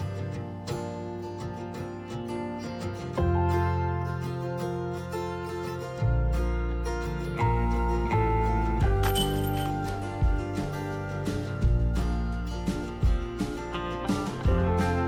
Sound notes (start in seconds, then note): 9.0 clang